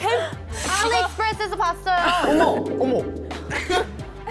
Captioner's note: sound effect implying it’s basically the same